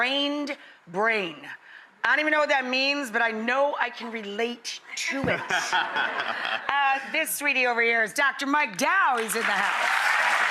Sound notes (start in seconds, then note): 5.4 laughs